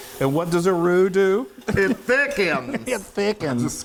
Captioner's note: laughter